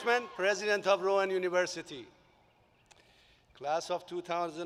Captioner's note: applause